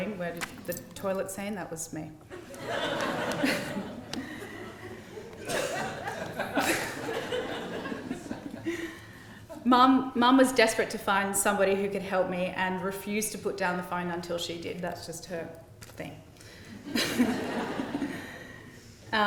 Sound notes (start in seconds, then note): 2.3 laughter; 16.7 laughter